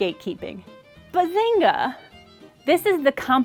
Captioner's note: cheerful